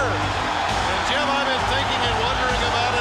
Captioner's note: crowd cheering